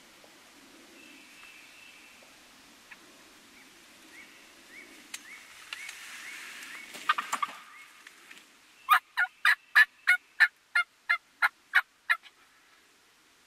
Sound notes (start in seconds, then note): 7.0 turkey gobbles; 9.0 hunter calls